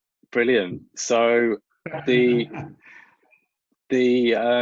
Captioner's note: laughs